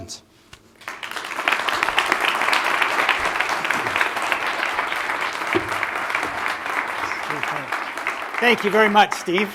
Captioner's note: applause